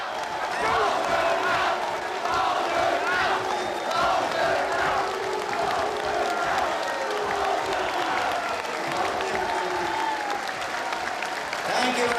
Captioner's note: chanting, heckling, and applause